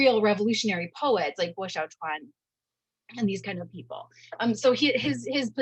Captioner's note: speaking in Mandarin